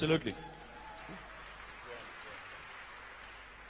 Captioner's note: applause